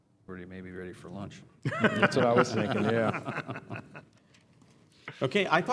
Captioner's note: laugh